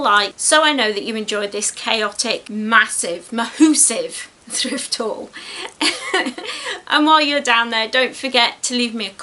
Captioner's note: giggles